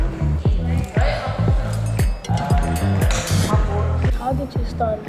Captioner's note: people talking